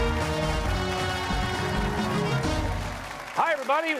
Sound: cheers and applause

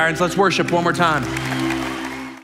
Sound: congregation applauding

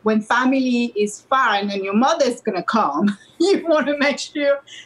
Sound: laughs

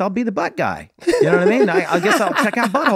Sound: everyone laughing

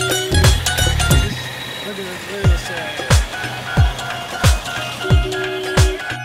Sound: horn honking

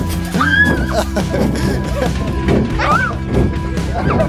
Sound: upbeat music; laughing

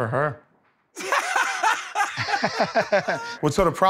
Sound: laughter

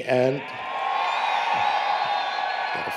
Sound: applause, Cheering

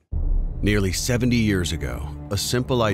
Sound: voiceover

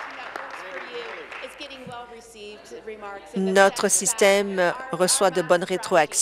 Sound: applause

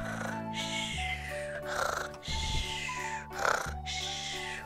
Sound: loud snoring

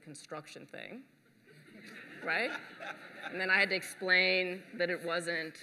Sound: laughter

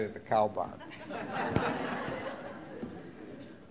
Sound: laughter

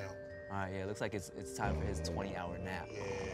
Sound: snores

